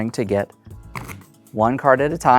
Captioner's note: cards riffling